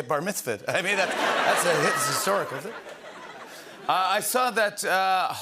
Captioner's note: laughter